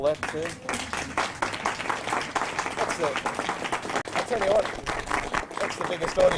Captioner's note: clapping